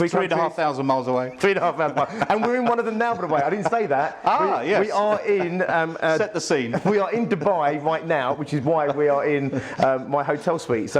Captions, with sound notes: - Three countries. - Three and a half thousand miles away. (laughs) - Three and a half thousand miles. And we're in one of them now, by the way, I didn't say that. - Ah, yes! (laughs) - We are in-- - Set the scene. - We are in Dubai right now, which is why we are in my hotel suite.